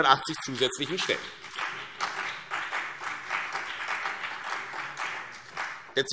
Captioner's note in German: Beifall CDU und BÜNDNIS 90/DIE GRÜNEN